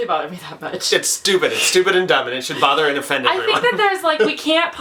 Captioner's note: laughs